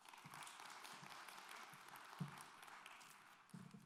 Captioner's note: applause